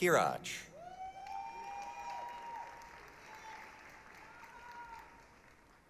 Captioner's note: applause, cheering